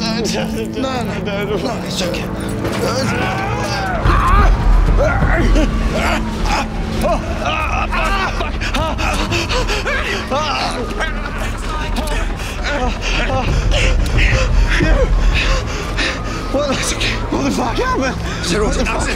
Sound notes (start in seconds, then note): 2.7 both groaning; 10.2 both panting